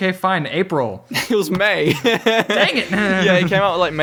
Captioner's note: laughs